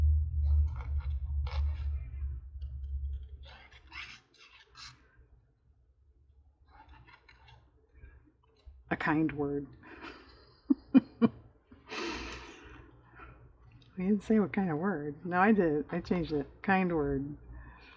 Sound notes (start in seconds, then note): 9.9 laughs